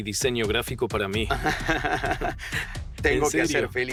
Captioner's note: laughs